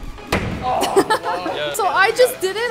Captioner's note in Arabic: كرة ترتطم بأرضية